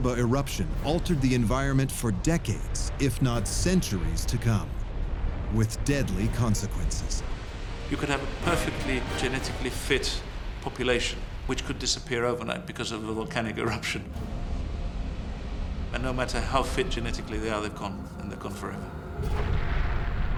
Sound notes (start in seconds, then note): 14.0 deep rumble; 18.6 ominous music